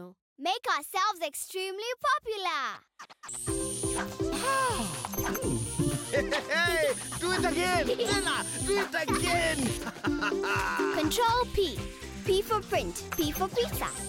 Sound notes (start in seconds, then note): 3.3 buzzing; 5.4 chuckling; 9.9 laughing